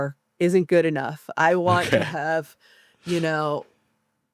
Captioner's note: chuckles